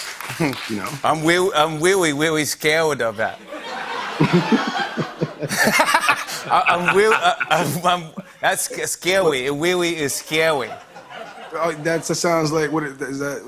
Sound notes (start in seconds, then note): 3.3 laughter